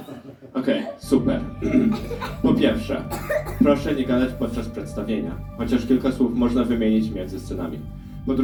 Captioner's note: clears throat